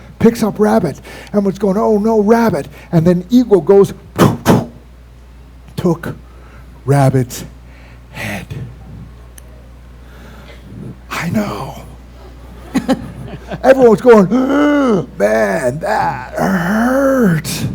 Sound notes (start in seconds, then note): 3.6 whup-whump